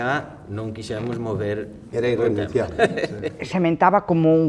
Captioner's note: laugh